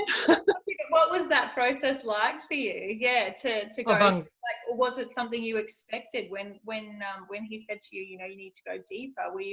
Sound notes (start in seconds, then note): 0.0 both laugh; 3.8 mumbles